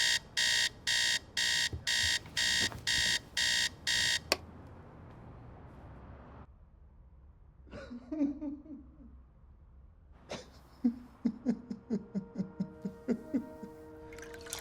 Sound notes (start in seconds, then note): 7.3 man sobbing